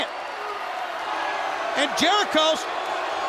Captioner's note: crowd cheering